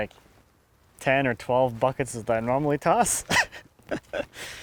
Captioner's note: laughs